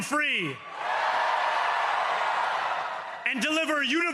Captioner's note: cheering